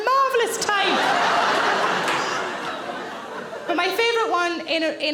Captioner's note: audience laughing